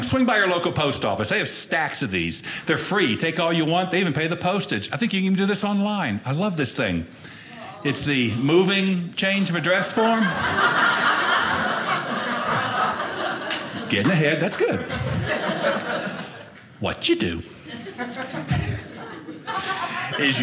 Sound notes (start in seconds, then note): 9.7 audience laughing